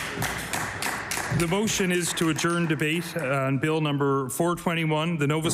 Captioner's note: applause